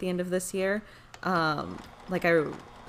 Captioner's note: sewing machine humming